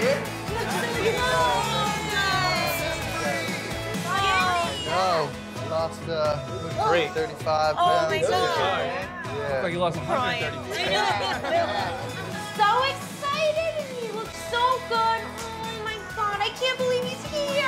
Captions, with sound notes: - You look so good. - I know, I lost 35 pounds. (crowd cheering) - You look like you lost 130. (laughing) - So excited and he looks so good. Oh my God, I can't believe he's here.